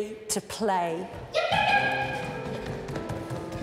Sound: yipping; pitter patter

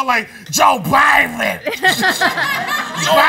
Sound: laughter

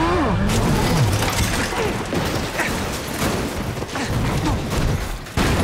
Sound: crashing; grunting

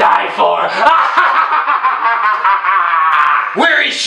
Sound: maniacal Laughing

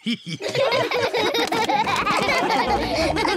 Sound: all laughing

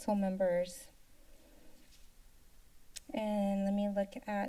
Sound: silence

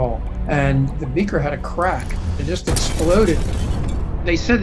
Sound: explosion

